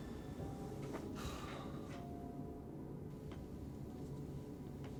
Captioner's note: Zac sighs